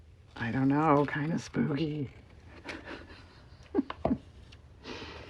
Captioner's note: laughs